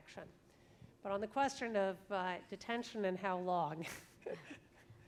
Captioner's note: laughs